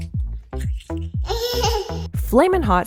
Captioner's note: laughs